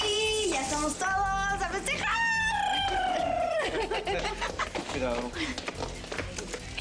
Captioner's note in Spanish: Ríe